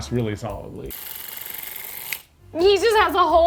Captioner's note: device clicking